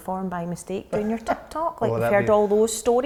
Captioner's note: laughing